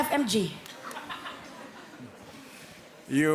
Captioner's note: audience member laugh